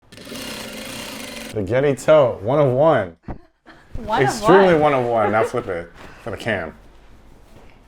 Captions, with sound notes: (sewing machine whirring) - The Getty tote, one of one. - One of one. - Extremely one of one. Now flip it... for the cam.